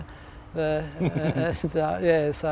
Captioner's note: laughs